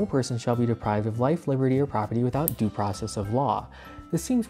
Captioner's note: nail clippers snip